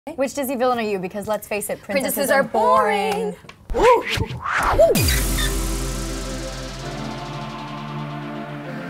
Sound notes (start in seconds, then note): 3.7 record scratching; 5.2 sign squeaking; 5.8 electronic music